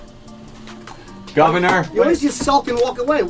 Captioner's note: male Voice